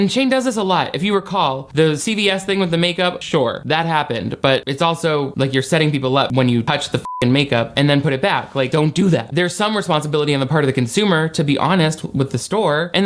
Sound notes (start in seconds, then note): 7.0 beep